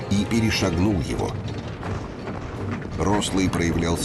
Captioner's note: sounds of gunfire